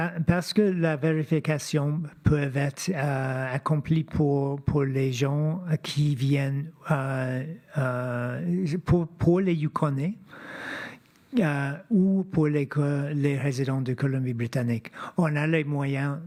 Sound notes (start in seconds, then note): 0.9 speaking French